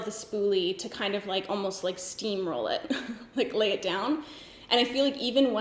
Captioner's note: giggles